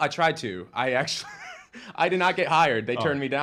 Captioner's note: chuckles